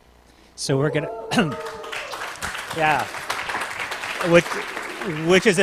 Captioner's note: applause